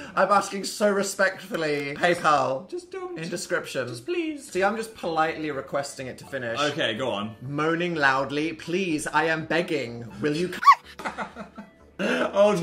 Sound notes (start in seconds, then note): 10.6 Phil laughing; 10.6 dog barking